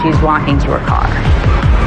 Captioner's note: tires s screechihing